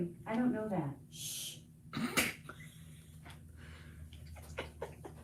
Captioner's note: hushes and laughs